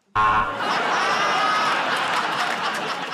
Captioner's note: buzzer; laughter